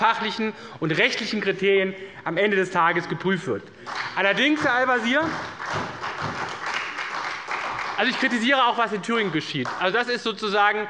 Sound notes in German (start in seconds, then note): 3.8 Beifall bei der SPD